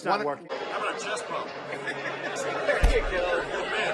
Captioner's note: laughing